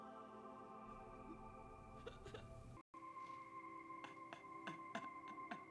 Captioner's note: laughing